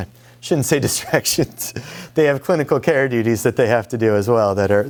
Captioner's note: laughs